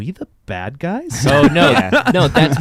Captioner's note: laughing